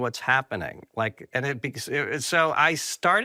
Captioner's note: stammering